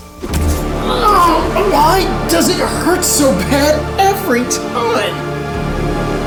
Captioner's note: grunts